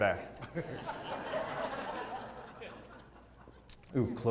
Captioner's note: laugh